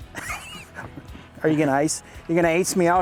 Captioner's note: laughter